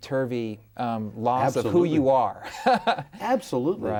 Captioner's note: laughs